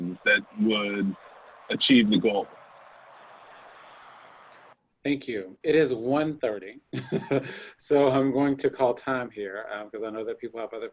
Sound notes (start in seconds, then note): 6.9 laughs